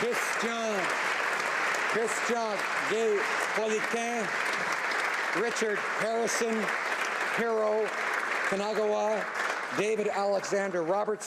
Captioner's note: applause